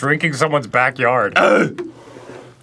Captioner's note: grunts